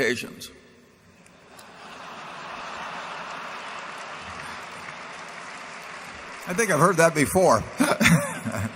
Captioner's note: laughter and applause